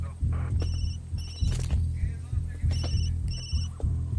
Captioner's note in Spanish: Suena el celular